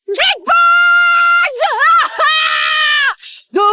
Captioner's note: screaming